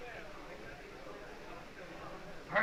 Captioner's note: whispering